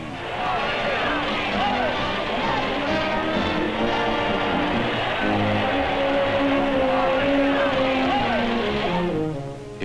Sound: cheering, music

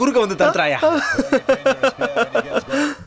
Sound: laughs

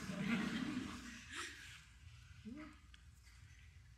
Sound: audience laughing

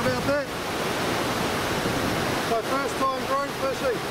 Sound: waves crashing

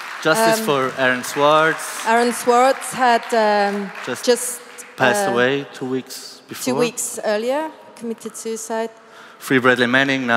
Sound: applause

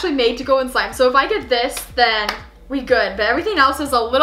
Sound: claps

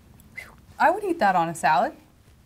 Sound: whistles

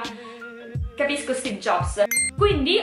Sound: ding

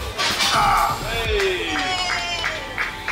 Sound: grunts

